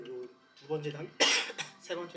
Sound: cough

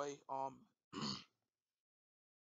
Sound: throat clear

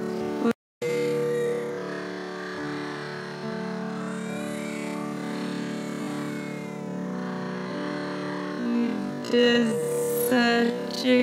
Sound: Lilo and stitch, brother bear, barbie Mattel doll crying stops

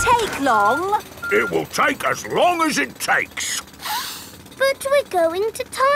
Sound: sniffs

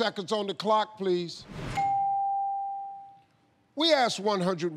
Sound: ding

